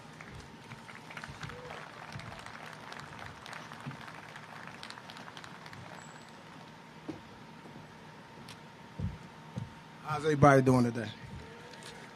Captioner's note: applause